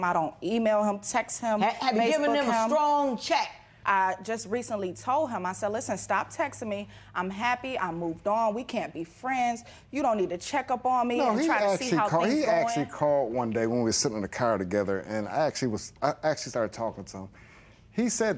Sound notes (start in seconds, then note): none